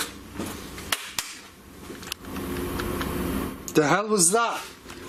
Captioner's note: loud slapping